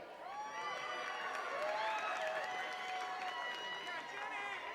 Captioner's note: attendees cheering and clapping